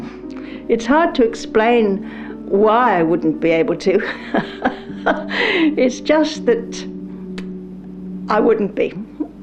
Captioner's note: laughs